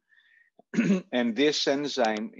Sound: clearing throat

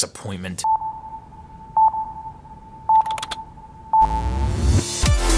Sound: electronic beeping; upbeat electronic music

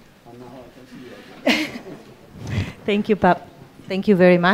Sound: speaks off-microphone

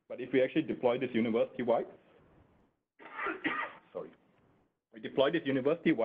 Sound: coughing

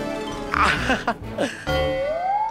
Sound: chuckles

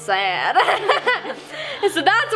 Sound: laughing

